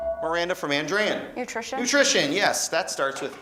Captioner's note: beeping